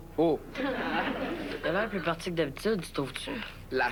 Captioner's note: Rires